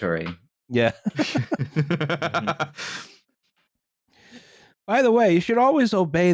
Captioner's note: laughter